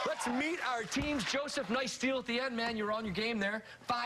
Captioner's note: cheers and applause